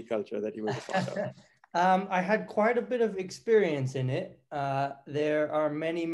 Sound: laugh

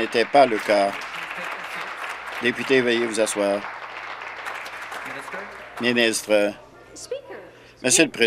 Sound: applause

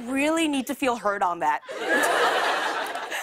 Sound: laughter

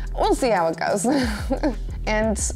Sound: lightly chuckles

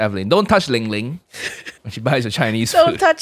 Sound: chuckles

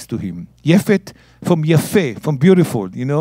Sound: speaking in Hebrew

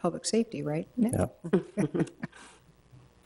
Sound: laughs

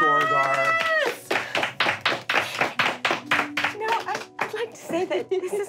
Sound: clapping

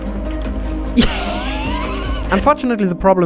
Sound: happy Noises

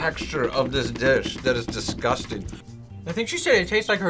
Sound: tapping feet

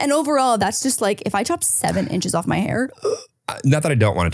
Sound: gasps

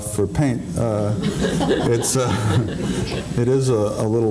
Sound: audience laughing

